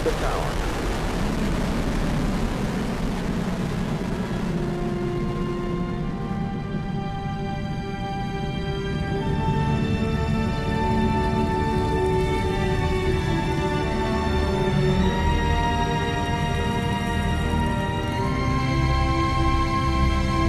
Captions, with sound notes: of the Delta Rocket with Mars Pathfinder. And the vehicle has cleared the tower. (rocket roaring) (inspirational music)